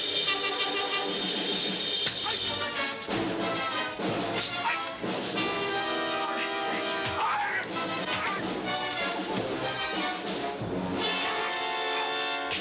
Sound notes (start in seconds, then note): 5.0 yelling; 8.1 gunshot